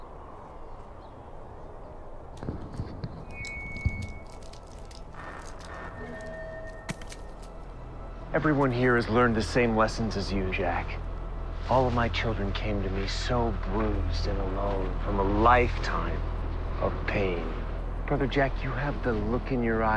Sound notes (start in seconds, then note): 2.8 microphone feedback